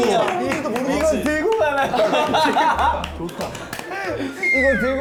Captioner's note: laughing